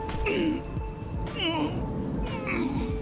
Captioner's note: grunting